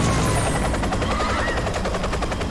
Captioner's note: all shout